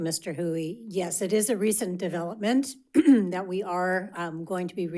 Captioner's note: clears throat